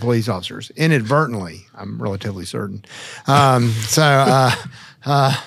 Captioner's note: chuckles